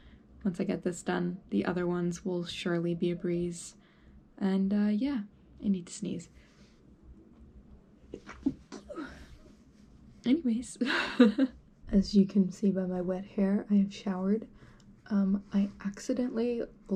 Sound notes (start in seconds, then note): 8.2 sneeze; 10.8 chuckles